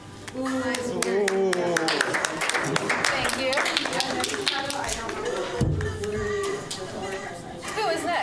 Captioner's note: applause